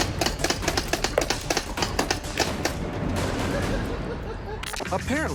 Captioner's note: laughter